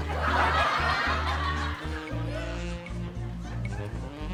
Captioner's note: audience laughs